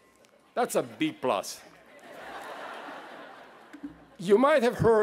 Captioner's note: laughter